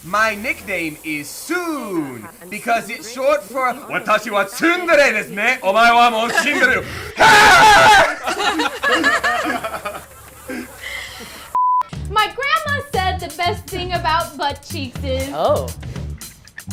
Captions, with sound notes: - My nickname is Sooon because it's short for Watashi wa TSUndere desu ne? Omae wa mov shinderu. (man screams) (group laughs) - My grandma said the best thing about butt cheeks is